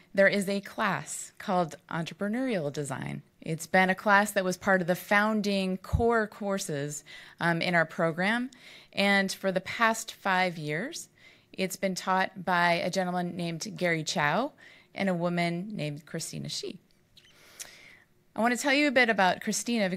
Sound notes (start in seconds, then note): none